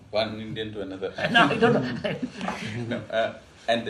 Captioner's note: laughs